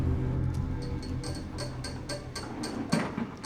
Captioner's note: fingernails tapping nervously